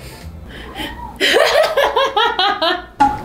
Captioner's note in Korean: 웃음